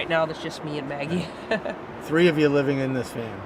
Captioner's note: chuckles